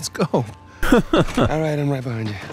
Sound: laughs

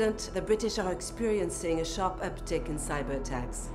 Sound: Sophie, in French

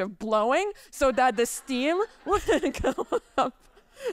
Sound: chuckles

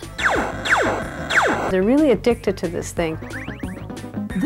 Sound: laser fire

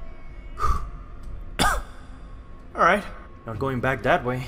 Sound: cough

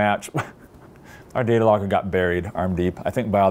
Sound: laughs

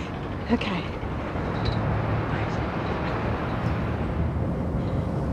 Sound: traffic whooshing

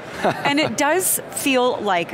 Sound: laughs

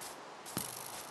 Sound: grassy impact

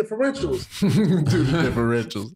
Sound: chuckling

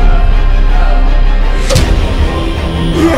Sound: thud

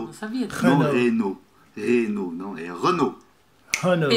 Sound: brazilian pronunciation

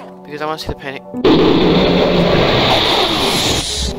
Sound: loud among us explosion

